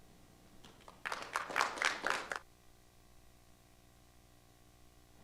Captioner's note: audience applauding